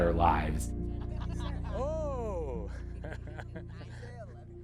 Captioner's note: group laughing